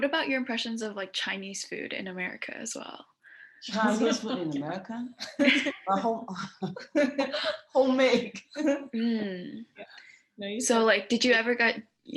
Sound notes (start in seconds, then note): 5.2 laughter